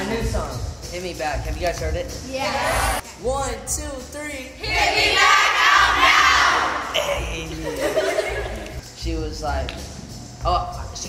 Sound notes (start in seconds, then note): 6.8 laughing